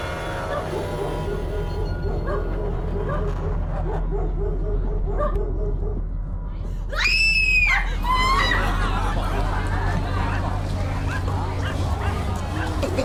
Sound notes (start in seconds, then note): 0.3 dogs barking; 6.9 woman screaming